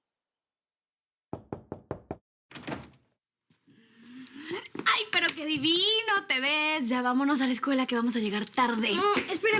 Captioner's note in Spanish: Toques en la puerta